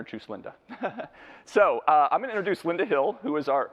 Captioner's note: laughs